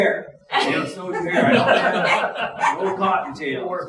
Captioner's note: audience laughing